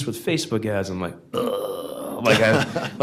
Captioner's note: groans